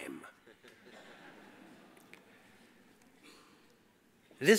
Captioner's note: audience laughs